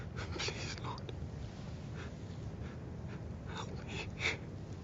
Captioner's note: sobs